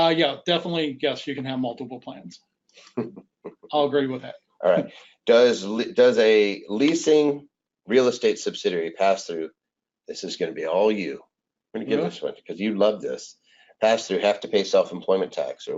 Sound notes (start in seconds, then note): 2.9 chuckles